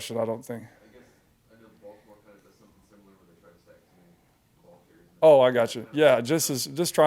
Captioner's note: talking quietly without a microphone